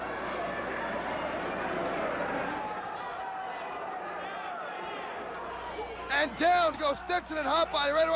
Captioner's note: crowd chatter